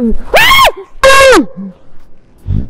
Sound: scream

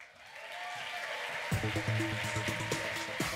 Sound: applause

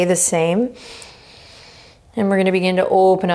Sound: inhaling deeply

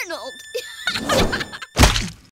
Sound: laughing

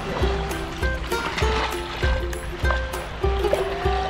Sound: water splashing

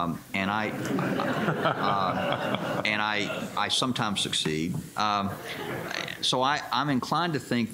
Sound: laughter

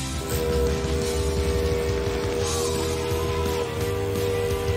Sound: machine whirring

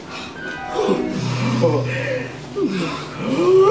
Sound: gasping; both laughing

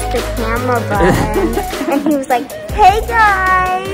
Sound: laughing

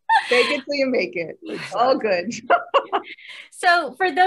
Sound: laughing

